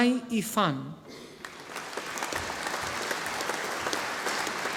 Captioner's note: audience applauding